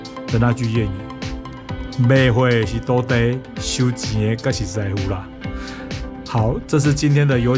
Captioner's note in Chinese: 台語